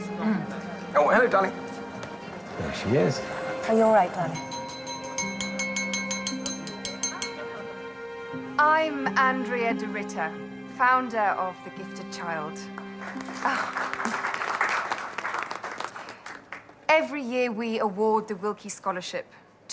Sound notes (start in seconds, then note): 4.4 tapping on glass; 12.8 applause